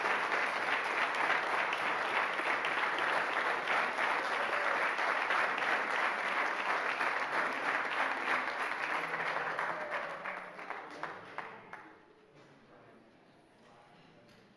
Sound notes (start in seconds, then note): 0.0 cheering and applauding; 6.8 applause